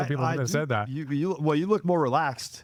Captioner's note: laughing